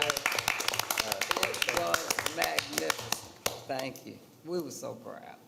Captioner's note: attendees applauding